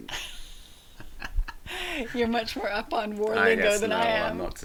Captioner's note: both laughing